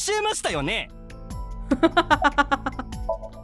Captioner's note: chuckles